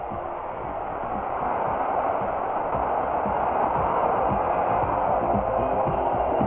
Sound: cheers and applause

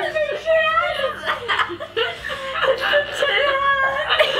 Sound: laughing

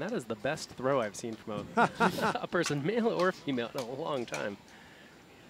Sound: laughs

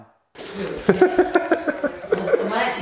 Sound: laughing

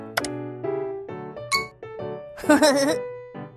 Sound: click; giggles

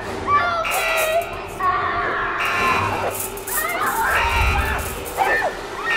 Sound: screams

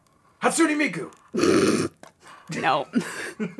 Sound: laughter

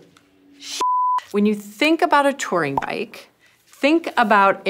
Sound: beep

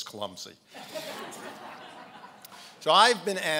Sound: laughing

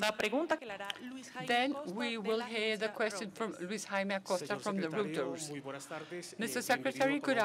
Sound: in Spanish

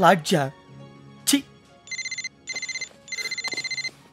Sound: phone ringing

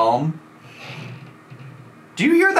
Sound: floors creaking

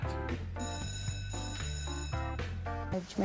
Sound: studio bells

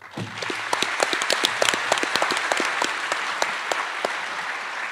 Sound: attendees applauding

